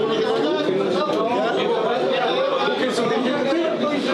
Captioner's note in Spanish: murmullos y reclamos